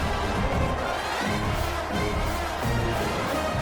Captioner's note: crowd Noises